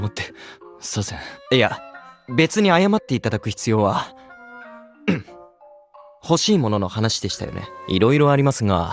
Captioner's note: ahem